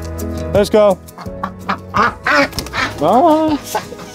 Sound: bird quacks

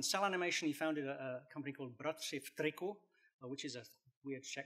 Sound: non-english speech

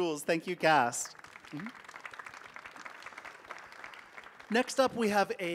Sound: audience applauding

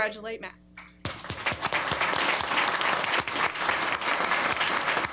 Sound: applause

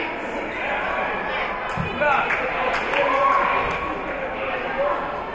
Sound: spectators and teams chattering

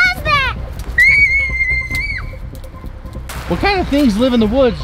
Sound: screaming

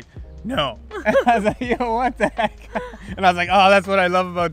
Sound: laughs

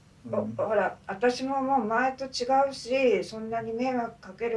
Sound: speaking Japanese

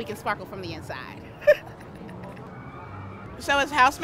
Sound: laughing

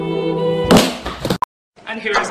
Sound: crash

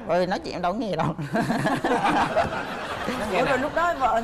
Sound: laughing

